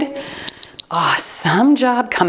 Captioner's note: timer beeps